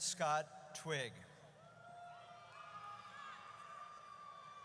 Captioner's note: audience cheers